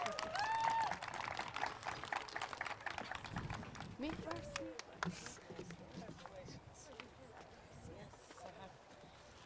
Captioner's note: applause